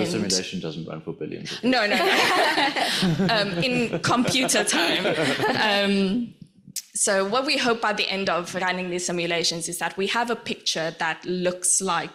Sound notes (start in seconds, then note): 1.8 laughs